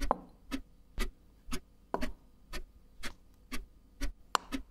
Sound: chess pieces moving; ticking continues

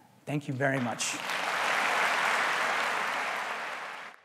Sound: applause

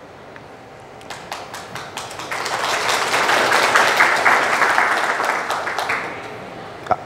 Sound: audience clapping

